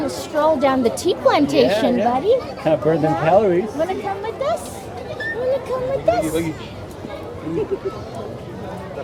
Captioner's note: laughter